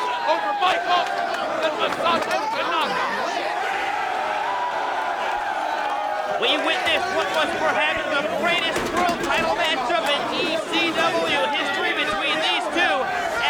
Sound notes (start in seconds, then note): 3.5 crowd cheering